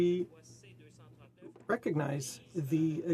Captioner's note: speaking French